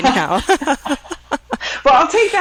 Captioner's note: women laughing